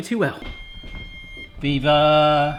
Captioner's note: beeping